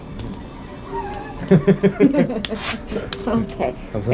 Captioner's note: laughs